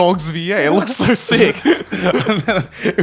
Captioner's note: laughing